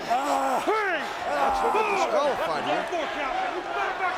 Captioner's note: John Cena screaming in pain